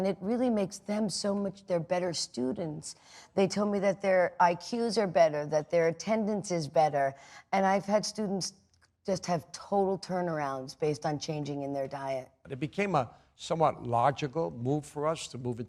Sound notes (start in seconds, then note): none